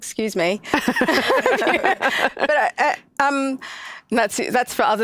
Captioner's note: laughs